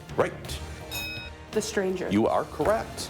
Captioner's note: bell dings